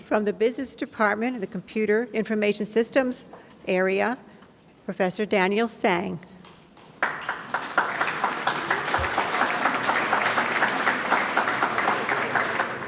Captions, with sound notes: From the Business Department, the Computer Information Systems area, Professor Daniel Tsang. (audience claps)